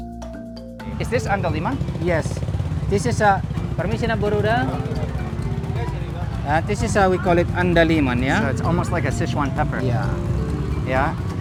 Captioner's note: speaking in Batak